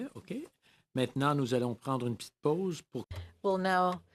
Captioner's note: speaking French